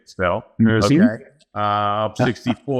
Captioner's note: laughs